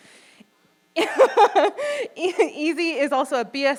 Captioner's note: chuckles